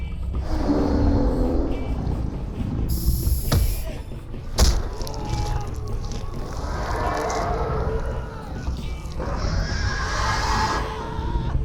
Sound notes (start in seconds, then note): 0.4 growls; 7.9 screams